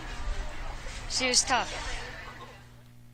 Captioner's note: cheers